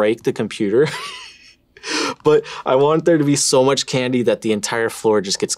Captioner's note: laughs